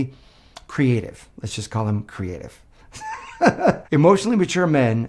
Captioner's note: laughs